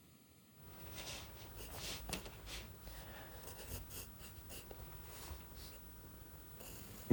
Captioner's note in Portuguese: arranhando do lápis no papel